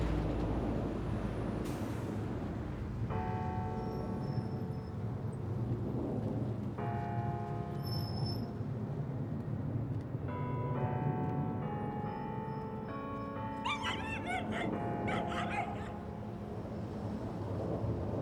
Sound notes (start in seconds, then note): 2.6 church bells ring; 13.1 4109 whines